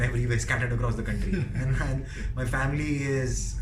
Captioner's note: laughing